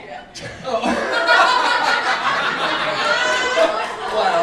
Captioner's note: audience laughing